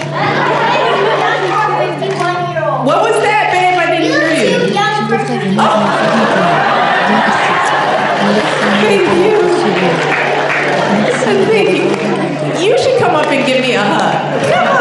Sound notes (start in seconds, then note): 6.3 audience laughing